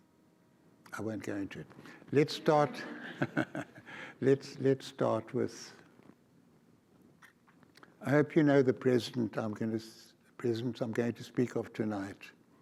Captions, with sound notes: I won't go into it. Let's start... (audience laughs) Let's start with... I hope you know the president I'm going to speak of tonight.